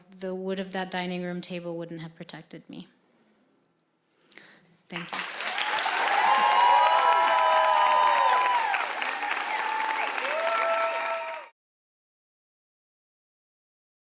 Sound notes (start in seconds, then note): 4.9 audience applauding; 5.0 audience cheering